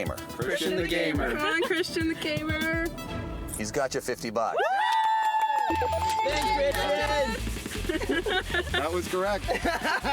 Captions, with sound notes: CHRISTIAN THE GAMER! COME ON CHRISTIAN THE GAMER! HE'S GOT YOU 50 BUCKS. WOO! (BELLS RINGING) THANKS CHRISTIAN! (LAUGHING) THAT WAS CORRECT.